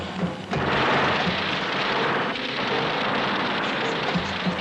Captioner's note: guns firing; soldiers talking in foreign language